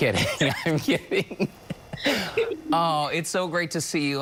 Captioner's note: laughter